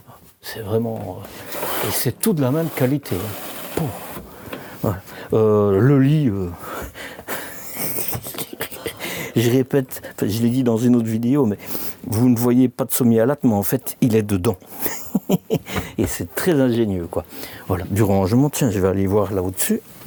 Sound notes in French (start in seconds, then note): 14.7 rires